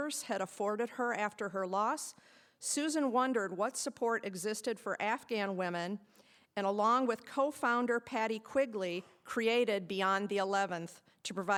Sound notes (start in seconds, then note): none